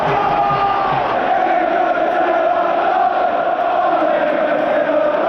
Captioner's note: crowd